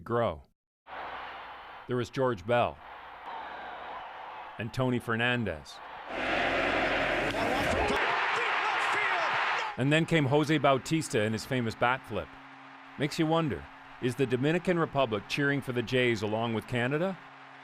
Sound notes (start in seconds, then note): 8.0 cheering